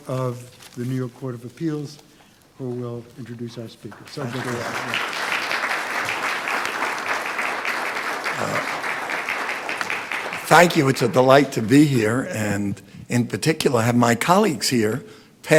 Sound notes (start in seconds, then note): 3.9 audience applauding